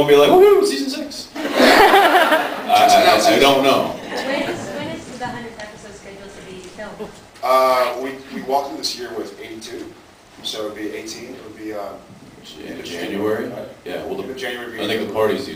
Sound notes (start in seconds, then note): 1.4 laughs